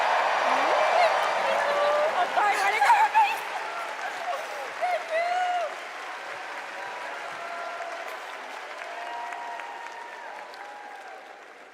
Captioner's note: cheers and applause